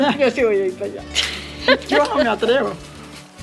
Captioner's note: laugh